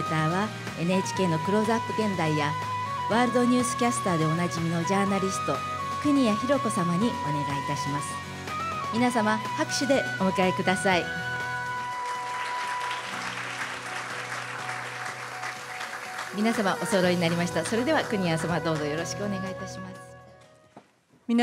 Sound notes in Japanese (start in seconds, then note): 11.9 拍手